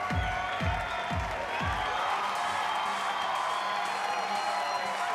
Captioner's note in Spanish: aplausos y exclamaciones